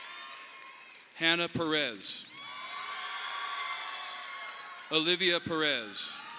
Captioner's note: audience applauding